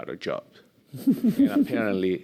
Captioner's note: chuckling